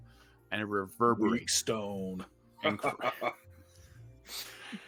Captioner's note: laughs